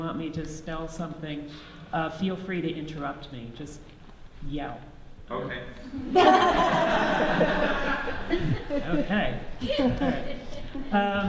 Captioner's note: audience laughs